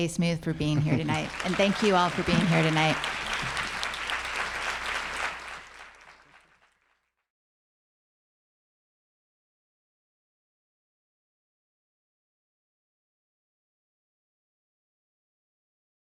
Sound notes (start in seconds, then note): 3.1 applause